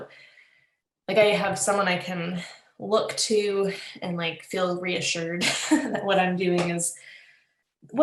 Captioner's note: laughs